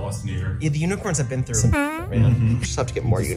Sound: squeak

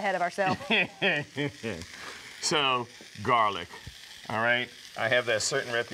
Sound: laughs

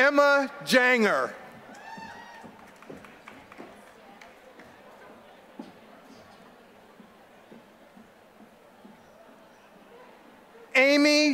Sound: applause

